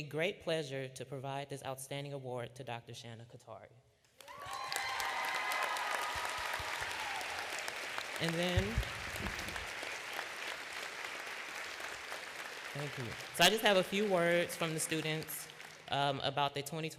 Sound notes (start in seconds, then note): 10.7 applause